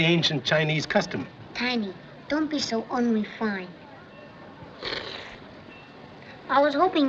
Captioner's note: slurping